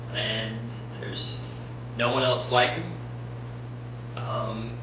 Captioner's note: none